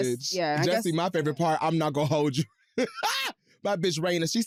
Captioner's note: laughs